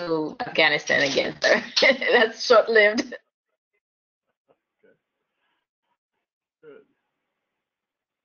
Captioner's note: laugh